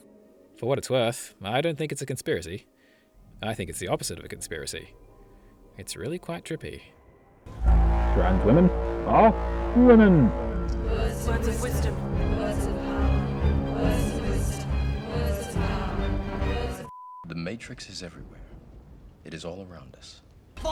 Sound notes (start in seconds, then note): 10.9 chanting